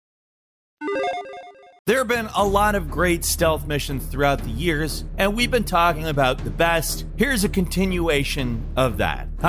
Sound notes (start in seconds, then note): 0.8 logo beeping